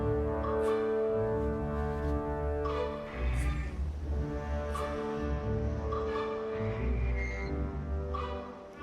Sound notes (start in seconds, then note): 2.7 windmill creaking